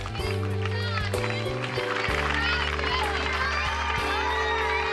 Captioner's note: crowd applauding; soft upbeat music